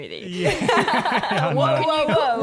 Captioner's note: laughing